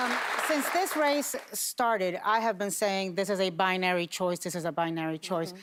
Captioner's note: applause